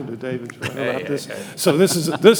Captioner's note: chuckling